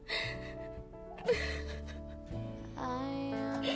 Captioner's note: crying